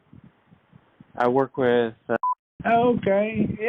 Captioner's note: beep